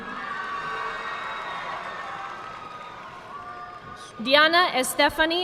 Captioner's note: audience cheering and applauding